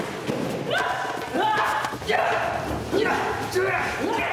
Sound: assassin yelling

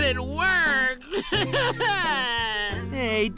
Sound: crying

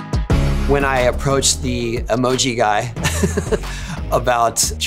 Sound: laughs

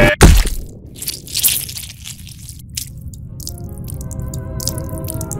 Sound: blood squirt

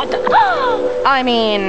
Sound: gasps

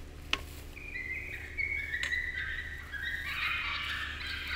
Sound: animal cries

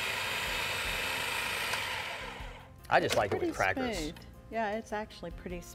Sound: grinding continues

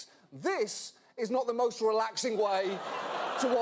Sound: audience laughter

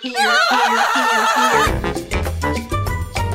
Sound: screams

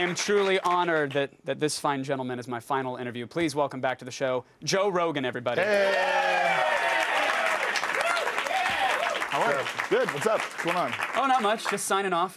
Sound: cheers and applause

